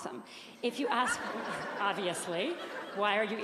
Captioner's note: audience laughing